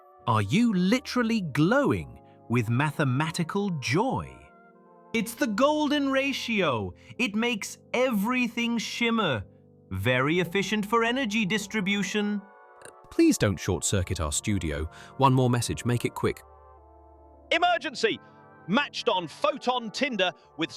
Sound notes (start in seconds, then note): none